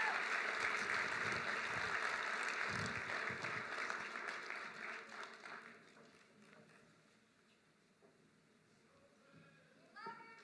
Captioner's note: applause